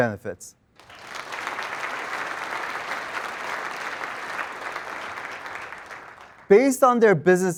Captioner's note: applause